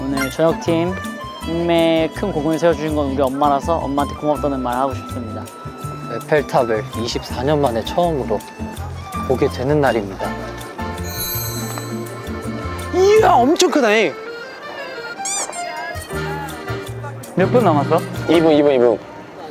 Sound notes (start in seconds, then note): 12.5 suddenly in dialect